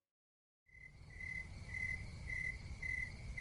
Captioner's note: crickets, Wind Blowing